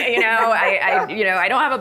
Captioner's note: panelist laughing